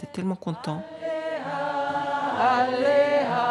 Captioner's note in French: paroles en dialecte d'Estonie